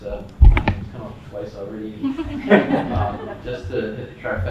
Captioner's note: audience laughs